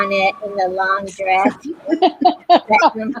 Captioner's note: laughter